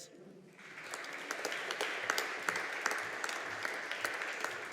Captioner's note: audience applauding